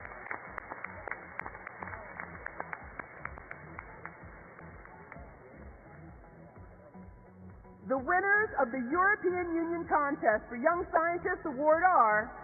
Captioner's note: applause